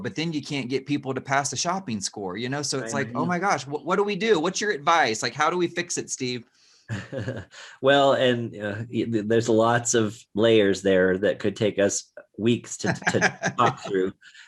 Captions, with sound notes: but then you can't get people to pass the shopping score. So it's like, Oh my gosh, what do we do? What's your advice? Like, how do we fix it, Steve? (chuckles) - Well, and there's a lots of layers there that could take us weeks to walk through.